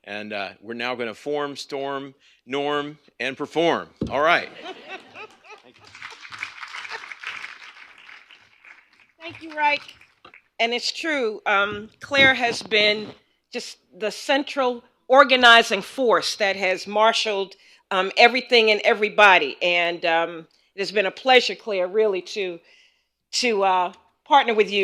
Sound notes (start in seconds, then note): 4.4 laughter; 5.5 applause